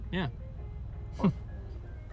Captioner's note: chuckles